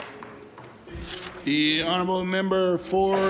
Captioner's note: applause